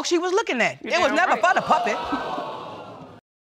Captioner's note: audience groans